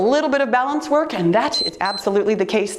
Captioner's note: timer beeps